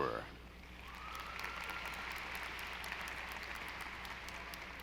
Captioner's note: audience applauding